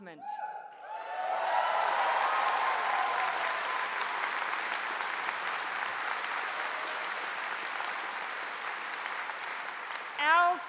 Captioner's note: applause